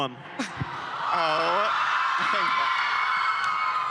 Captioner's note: crowd cheering